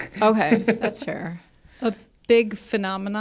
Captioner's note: laughs